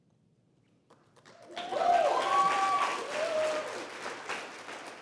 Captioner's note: applause